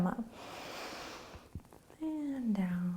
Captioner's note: inhaling